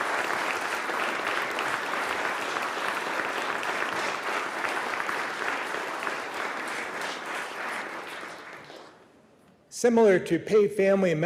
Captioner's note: applause